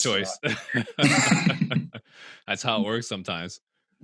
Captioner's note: laughs